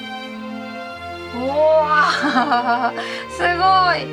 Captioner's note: laughs